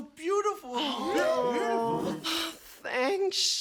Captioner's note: all scoff, groan